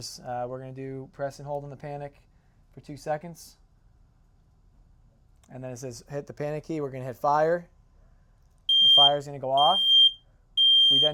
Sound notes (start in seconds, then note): 8.7 alarm